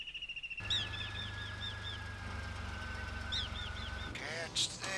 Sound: van idling

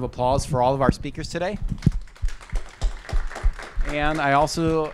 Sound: applause

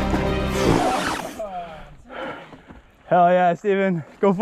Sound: record scratches loudly

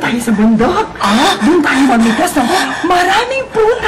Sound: Emman gasps

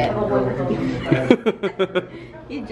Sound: giggles

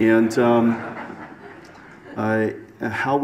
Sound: audience laughs

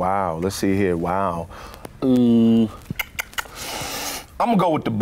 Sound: clicks tongue

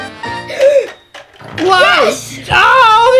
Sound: gasps

